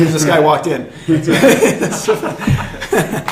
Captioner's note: laughter